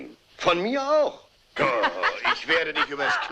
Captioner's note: laughs